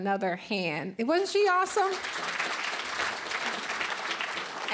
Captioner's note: applause